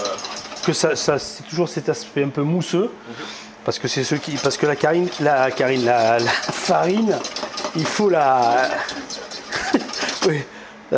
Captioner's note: laughs